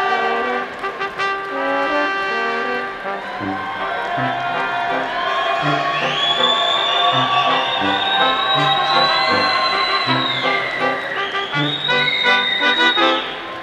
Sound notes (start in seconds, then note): 0.3 bright instrumental music; 7.3 audience applauding